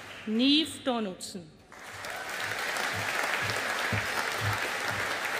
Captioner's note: audience applauding